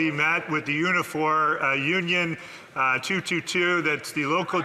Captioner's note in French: voix de l'interprète